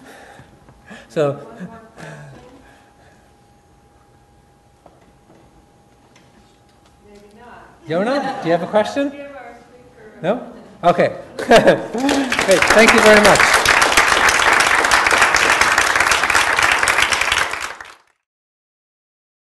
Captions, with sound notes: - One more question. Maybe not. (audience laughs) - Yonah, do you have a question? No, okay. (audience applauds) Thank you very much.